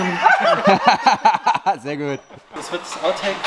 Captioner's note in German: Alle lachen